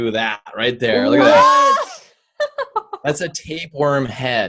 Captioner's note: giggles